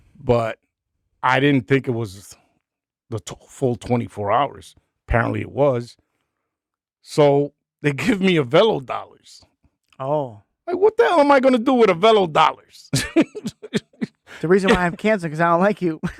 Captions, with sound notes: But I didn't think it was the full 24 hours. Apparently it was. So they give me Avelo dollars. Oh. Like what the hell am I gonna do with Avelo dollars? (laughing) The reason why I have cancer, because I don't like you.